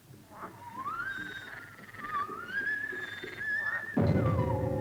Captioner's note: animal croaking; suspenseful music